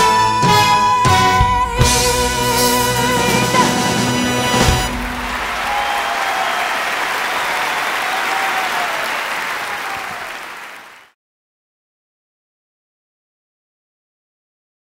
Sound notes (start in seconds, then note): 4.4 crowd applauding